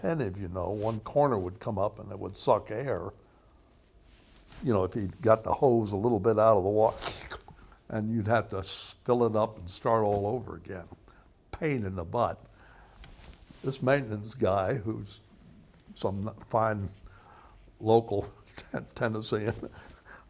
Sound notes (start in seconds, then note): 6.9 slurping noise